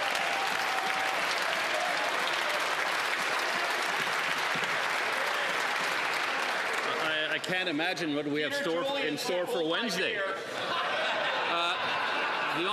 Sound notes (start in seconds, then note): 6.1 some Applause